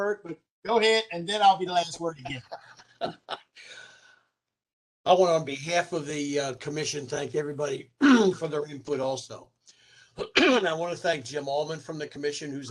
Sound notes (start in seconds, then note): 2.0 laughter